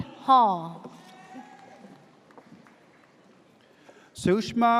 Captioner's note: audience cheers